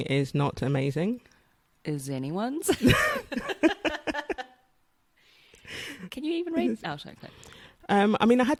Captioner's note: laughs